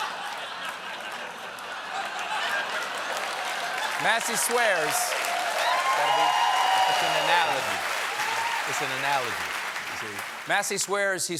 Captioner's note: laughter